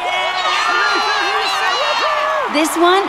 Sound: crowd cheers

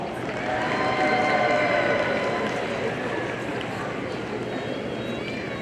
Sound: audience cheering and applauding

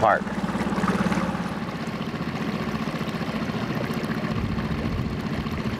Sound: boat engine revving

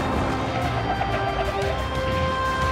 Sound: tires screeching

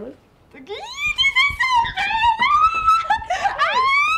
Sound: squealing

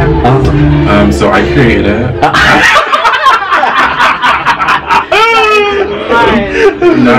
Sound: laughter

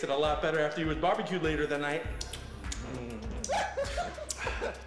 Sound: fingers sucking; man laughing

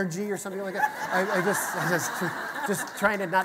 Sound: audience laughter

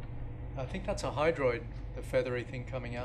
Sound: male Voice

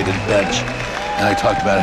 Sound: applause sfx

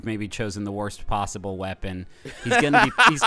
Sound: laughing

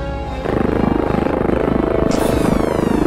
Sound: plain Noises

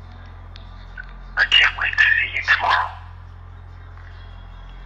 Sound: recorded Voice

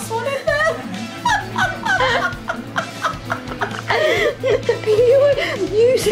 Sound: laughs

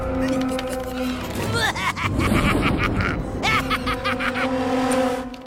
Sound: evil laughter

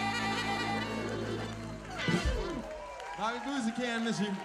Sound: crowd cheers

